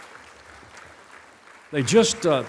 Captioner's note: applause